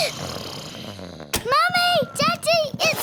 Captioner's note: both giggling; snoring